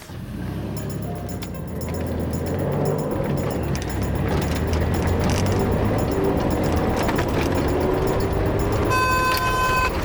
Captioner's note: engine revs; horn blows